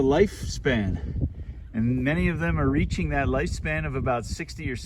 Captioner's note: none